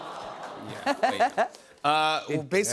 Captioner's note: audience "aww's"